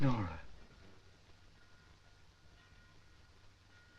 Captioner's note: clock chiming